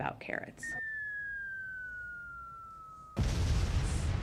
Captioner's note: missile hurtling through air; explosion